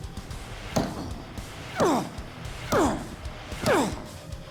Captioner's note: continues grunting